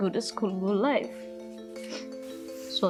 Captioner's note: sniffles